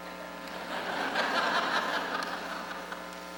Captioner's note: laughter